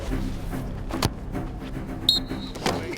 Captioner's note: dramatic Music; ball Kicked; whistle